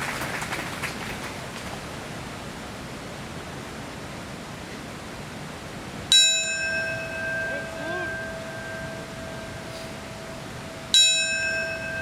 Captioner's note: applaeus